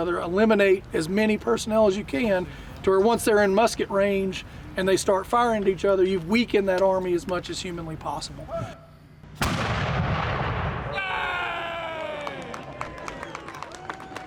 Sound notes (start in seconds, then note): 9.3 cannon fires; 10.9 shouts and applause